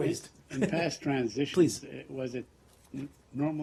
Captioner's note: laughter